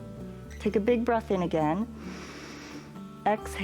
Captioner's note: exhales; inhales